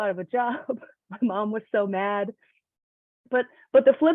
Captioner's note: laughs